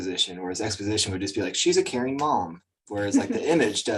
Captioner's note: chuckles